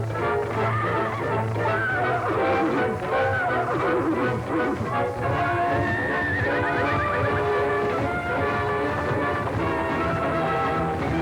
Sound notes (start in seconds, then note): 0.0 dramatic music playing; 1.0 neighing